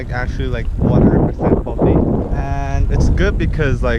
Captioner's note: wind